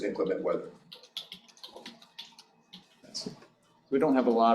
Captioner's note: keyboard clacking